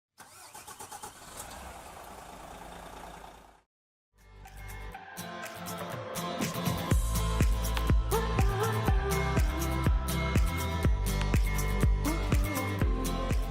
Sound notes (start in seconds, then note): 0.1 sound of truck starting up; 4.5 upbeat music playing